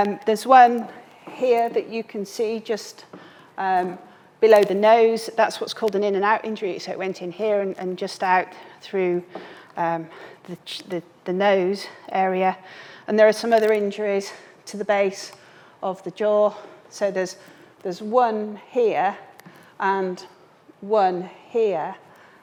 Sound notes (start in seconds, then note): none